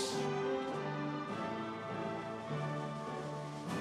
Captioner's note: audience cheering